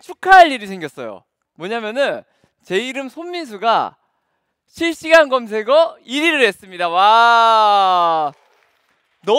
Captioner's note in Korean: 관객 환호성